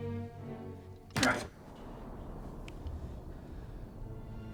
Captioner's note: blow thuds